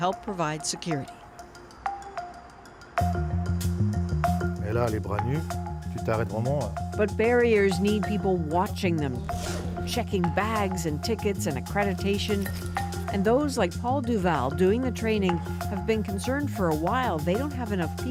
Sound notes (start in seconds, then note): 6.4 speaking French